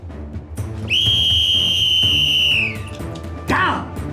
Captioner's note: whistle blows